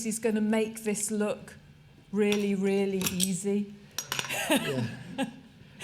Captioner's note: laughter